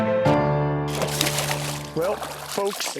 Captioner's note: splashing